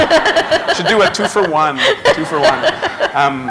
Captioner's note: laughter